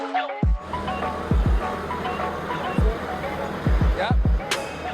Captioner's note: engine sound